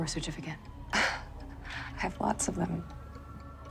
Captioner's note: chuckles